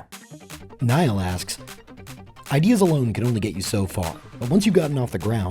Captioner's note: voiceover